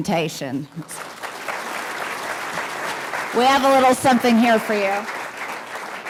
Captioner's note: applause